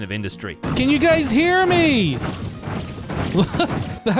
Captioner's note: layered shulker noises